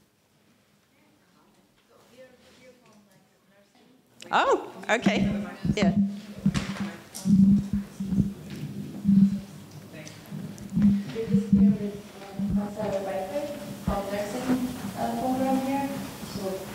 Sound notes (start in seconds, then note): 1.3 student murmuring; 11.6 student murmuring